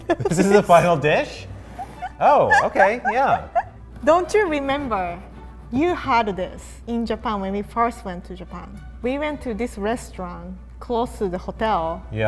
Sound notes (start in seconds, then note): 1.8 laughs